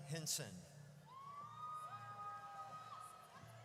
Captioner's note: audience cheers